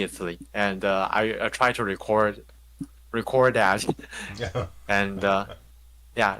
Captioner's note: laughs